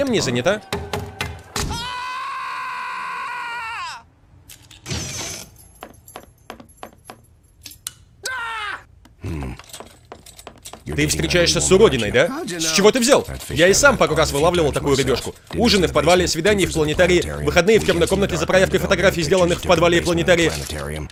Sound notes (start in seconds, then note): 0.2 knife chopping; 0.6 man screaming; 8.2 yells